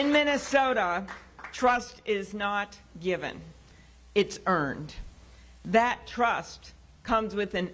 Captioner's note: applause